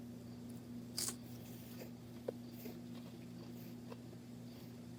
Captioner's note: crunch